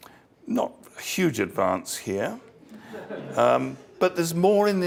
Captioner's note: laugh